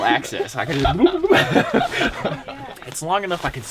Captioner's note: glugging, drinking noises